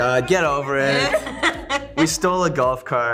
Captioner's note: Joy and Emma laugh